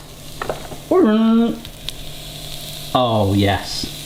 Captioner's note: mimics horn